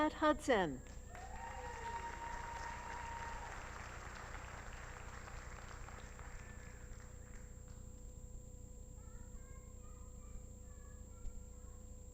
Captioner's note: applause